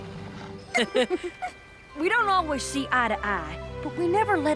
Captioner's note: chuckle